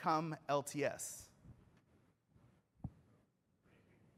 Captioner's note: off microphone